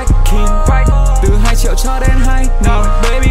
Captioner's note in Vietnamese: ohhhhhh